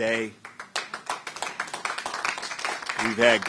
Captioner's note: applause